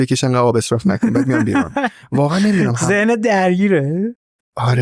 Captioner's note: laughs